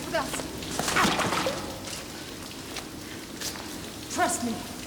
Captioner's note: water splashes